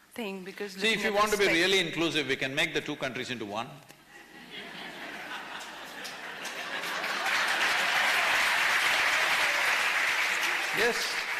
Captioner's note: laughter